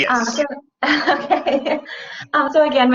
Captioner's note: laughs